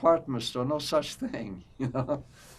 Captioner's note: laughing